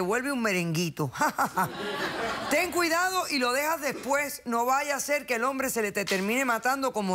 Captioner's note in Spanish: risas